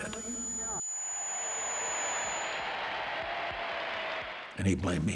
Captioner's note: applause